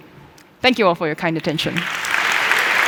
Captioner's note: applause